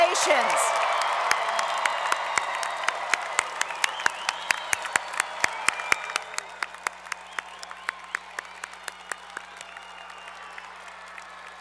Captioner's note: applause